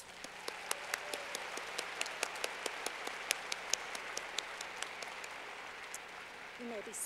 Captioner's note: clapping